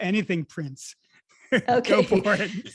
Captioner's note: laughs